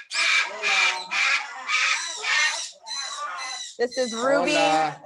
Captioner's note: parrots chirping